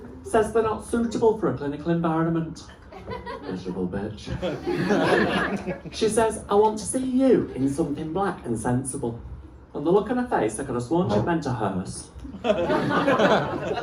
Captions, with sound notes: Says they're not suitable for a clinical environment. Miserable bitch! (laughter) She says I want to see you in something black and sensible. From the look on her face I could have sworn she'd meant a hearse. (laughter)